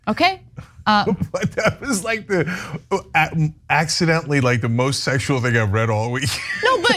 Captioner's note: laugh